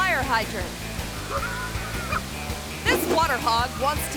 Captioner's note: person laughing